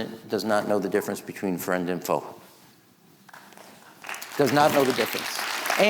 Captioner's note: audience clapping